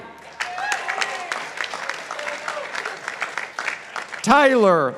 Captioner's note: participants applauding